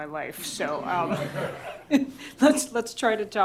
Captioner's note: laughter